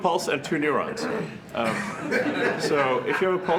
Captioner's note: laughter